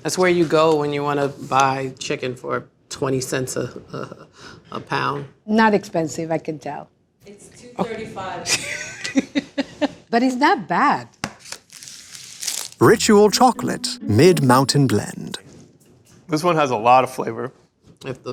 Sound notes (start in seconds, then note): 8.6 chocolatier laughs; 11.4 wrapper tears